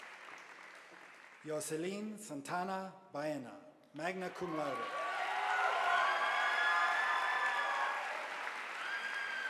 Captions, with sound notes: Yo Celine Santana Bayena magna cum laude, (audience applauding)